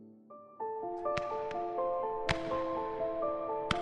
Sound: guns firing

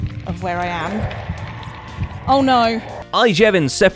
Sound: Shrieker shrieks

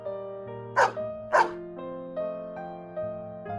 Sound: bark bark

